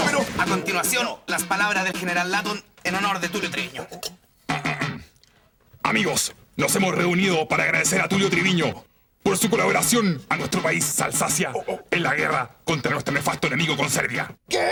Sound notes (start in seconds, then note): 4.5 clears throat